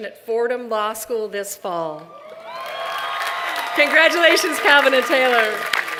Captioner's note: applause